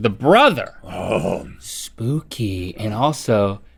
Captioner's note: Rhett grunts